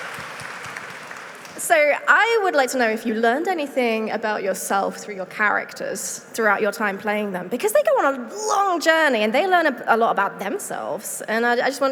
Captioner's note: applause